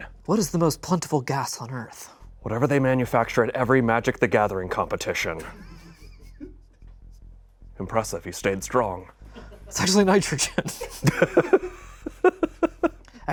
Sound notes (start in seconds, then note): 5.7 crew laughs; 10.4 laughs